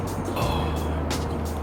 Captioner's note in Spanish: Suspiro